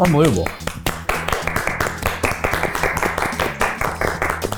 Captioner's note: both applauding